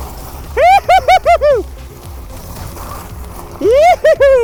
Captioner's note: gleefully hollering